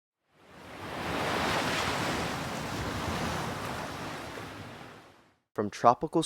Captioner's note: ocean wave sounds